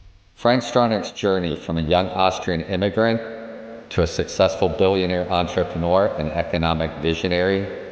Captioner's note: text thumps; solemn music